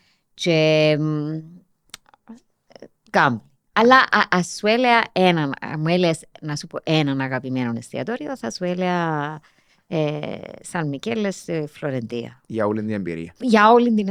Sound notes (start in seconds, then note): none